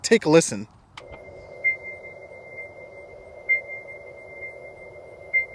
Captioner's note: vehicle beeping